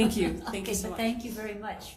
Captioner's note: chuckling